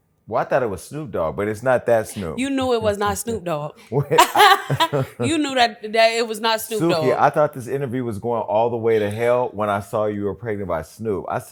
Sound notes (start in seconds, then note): 4.0 laughs